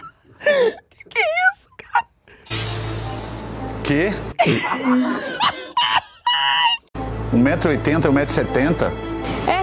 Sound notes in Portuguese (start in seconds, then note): 4.4 risadas